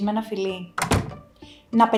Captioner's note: door shut